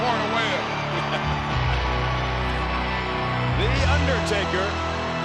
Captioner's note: laughs